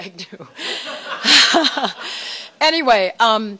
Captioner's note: laughter